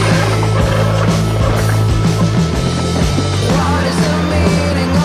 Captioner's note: brakes squealing